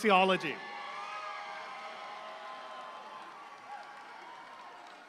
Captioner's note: audience applauds